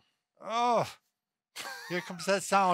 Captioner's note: moaning